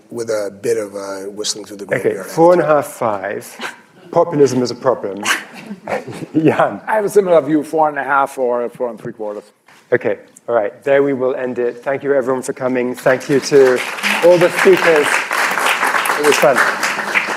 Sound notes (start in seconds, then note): 5.5 laughter; 13.0 applause